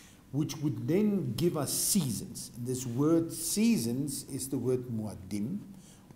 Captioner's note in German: auf hebräisch